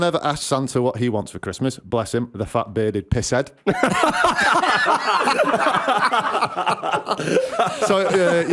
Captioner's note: laughter